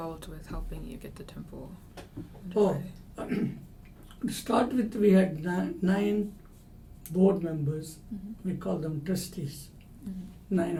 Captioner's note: clears throat